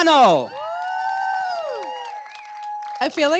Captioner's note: cheering